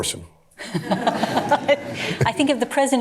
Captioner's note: laughter